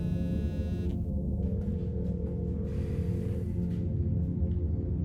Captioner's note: ringing tone